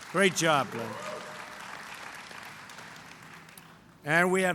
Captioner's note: applause